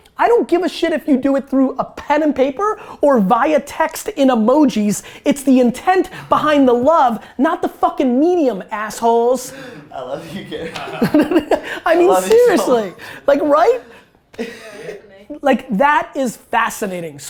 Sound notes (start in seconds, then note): 9.7 laughter